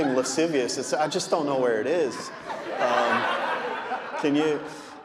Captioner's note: audience laughing